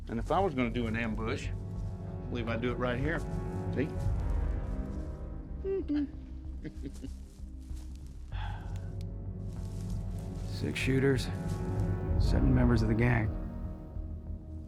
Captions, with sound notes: IF I WAS GONNA DO AN AMBUSH, MIGHT DO IT RIGHT HERE, SEE? [PEEKABOO SOUND] [SIGHS] SIX SHOOTERS... SEVEN MEMBERS OF THE GANG...